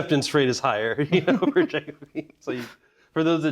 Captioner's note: both laughing